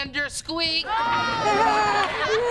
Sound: laughing sarcastically

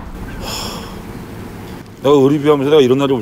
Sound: sighing

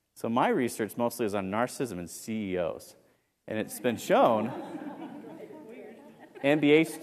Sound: laugh

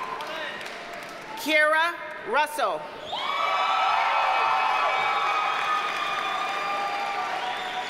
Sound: audience cheers and applauds

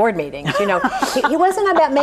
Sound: laughs

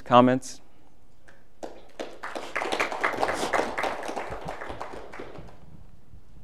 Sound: applause

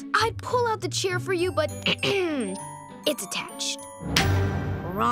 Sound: clearing throat

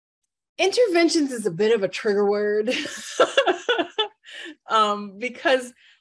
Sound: laughs

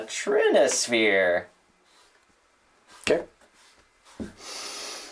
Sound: sharply inhales

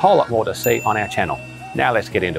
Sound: ping

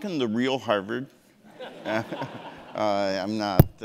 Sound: audience laughing

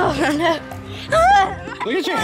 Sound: laughing

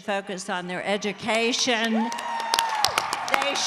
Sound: cheering

